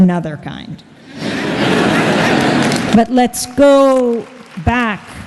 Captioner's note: laughter and Applause